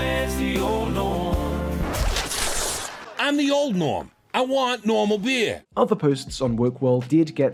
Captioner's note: record scratch